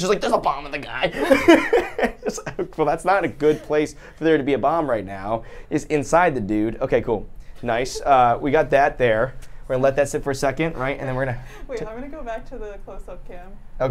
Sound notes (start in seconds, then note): 1.1 laughs